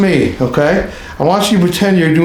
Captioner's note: laughing